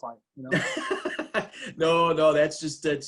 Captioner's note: laughs